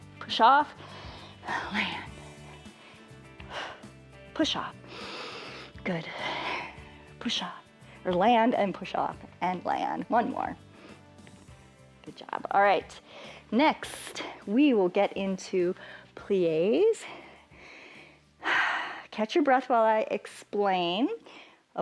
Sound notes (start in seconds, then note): 0.7 inhales and exhales; 4.8 inhales; 4.8 exhales; 16.7 inhales and exhales